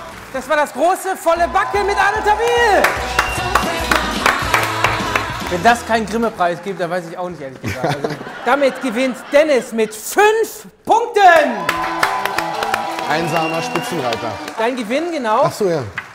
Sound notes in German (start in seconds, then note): 3.3 Jubel, Applaus; 4.6 Dynamische Musik; 11.2 Jubel, Applaus